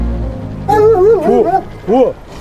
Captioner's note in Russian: лай собак